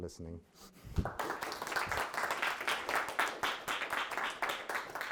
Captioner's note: audience applauds